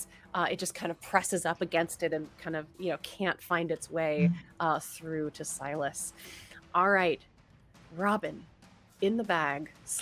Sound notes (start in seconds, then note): none